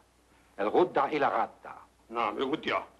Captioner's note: speaks foreign language; priest speaks foreign language